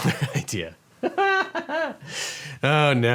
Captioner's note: lawyer laughs